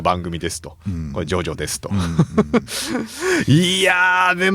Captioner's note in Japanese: 笑い